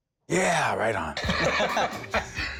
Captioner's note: chuckles